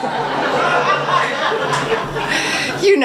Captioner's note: audience laughs